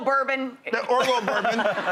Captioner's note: crowd laughing